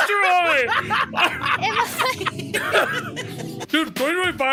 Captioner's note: all laughing